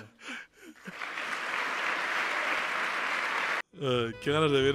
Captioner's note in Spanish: Aplausos del público